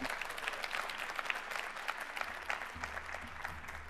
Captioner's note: applause